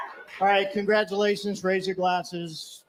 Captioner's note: video: cheers & applause